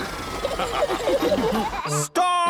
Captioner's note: all laughing